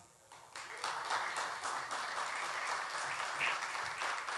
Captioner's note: audience applauding